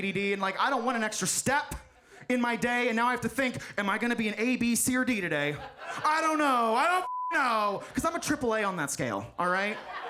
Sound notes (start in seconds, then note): 7.0 beep; 9.6 audience laughs